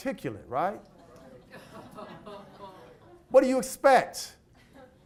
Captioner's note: audience laughs incredulously